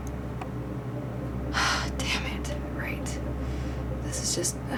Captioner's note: sighs